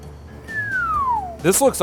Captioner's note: whistles